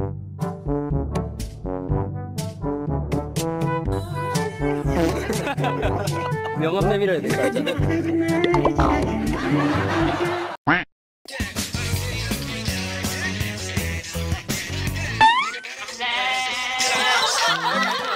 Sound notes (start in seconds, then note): 16.6 laugh